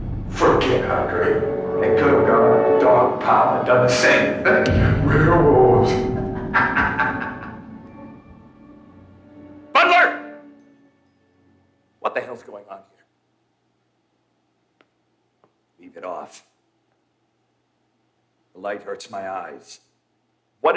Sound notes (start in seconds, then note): 5.7 laughs